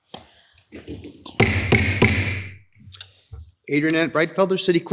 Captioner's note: gavel banging